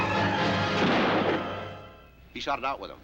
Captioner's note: car thudding